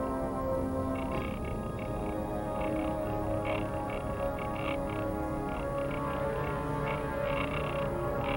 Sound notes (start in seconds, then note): 1.8 instrument crackling; 1.8 tense music